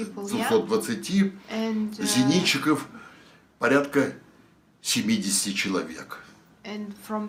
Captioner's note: foreign language